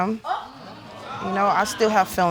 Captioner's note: audience exclaiming